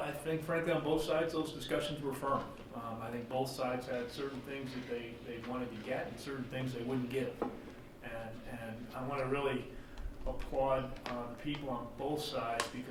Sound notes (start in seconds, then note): none